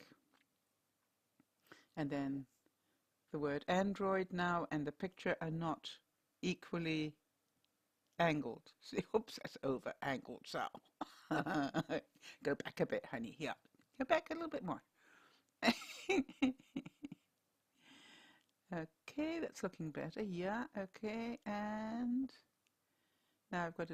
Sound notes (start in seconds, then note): 15.6 laughter